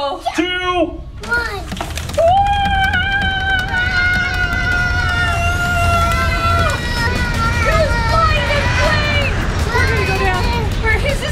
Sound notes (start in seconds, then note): 2.2 pilot screaming; 2.9 plane whooshing; 7.3 all screaming